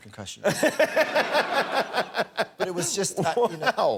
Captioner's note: laughter